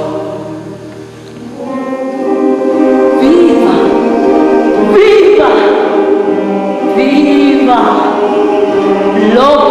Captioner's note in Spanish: recitando